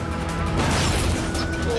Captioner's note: crashing